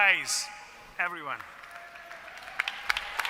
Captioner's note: applause